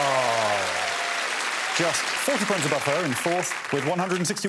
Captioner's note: applause